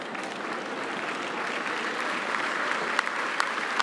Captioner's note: applause